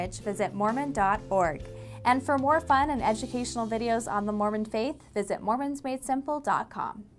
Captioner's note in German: auf Englisch